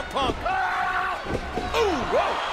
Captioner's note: Batista yelling